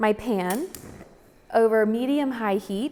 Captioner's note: oven clicking